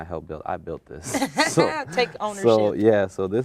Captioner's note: laughs